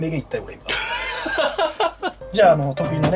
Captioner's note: laughter